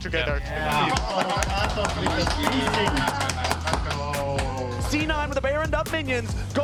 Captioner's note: clapping hands